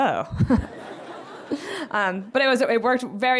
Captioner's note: laughter